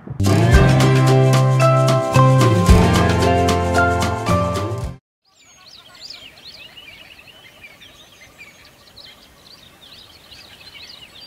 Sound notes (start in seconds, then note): 0.1 upbeat music; 5.2 bird chirping